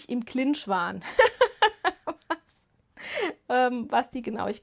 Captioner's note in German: Gelächter